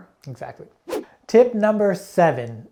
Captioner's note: air whooshing